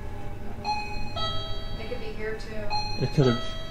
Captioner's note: detector ticking